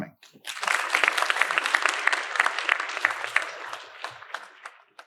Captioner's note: audience applauding